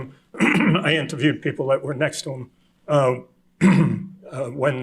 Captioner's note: clears throat